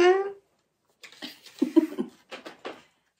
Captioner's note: laughing